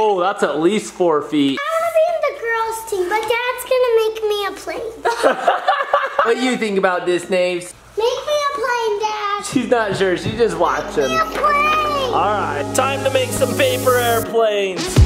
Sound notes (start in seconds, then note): 5.0 laughs